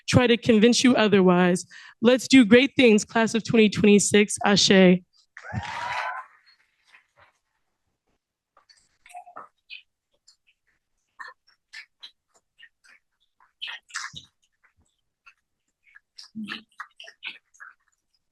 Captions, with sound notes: try to convince you otherwise. Let's do great things, Class of 2026. Ashay. [CHEERING]